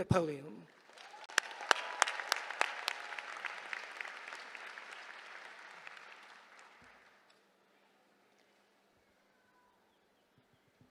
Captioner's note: applause